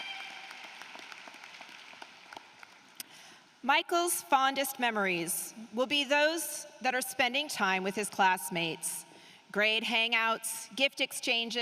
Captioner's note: applause